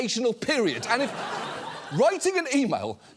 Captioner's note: audience laughs